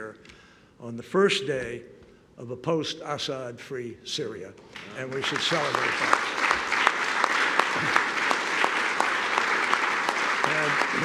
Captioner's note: applause